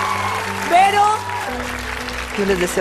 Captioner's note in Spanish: Aplausos